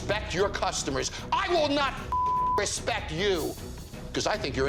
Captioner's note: beep